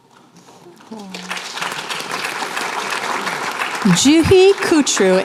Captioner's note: applause